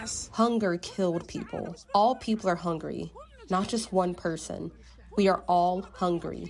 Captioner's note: voice-over